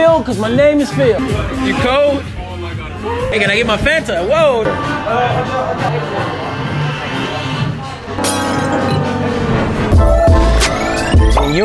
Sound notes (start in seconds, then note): 8.1 base drops to smooth music; 8.2 glass breaks